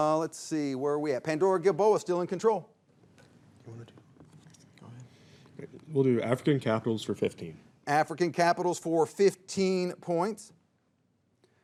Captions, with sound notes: Let's see, where are we at? Pandora-Gilboa, still in control. (students faintly chattering) - Go ahead. We'll do African capitals for 15. - African capitals for 15 points.